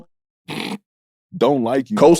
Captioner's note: snorts